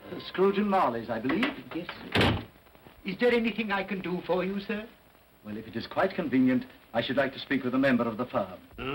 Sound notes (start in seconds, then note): 1.2 door closes